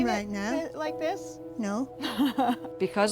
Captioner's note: laughing